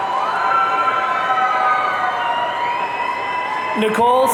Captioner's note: audience cheering